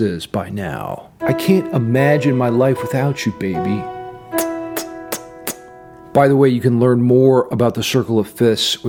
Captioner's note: smooches